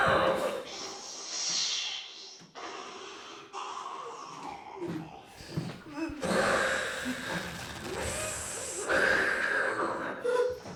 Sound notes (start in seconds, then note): 5.9 Faye moaning; 6.5 snake hissing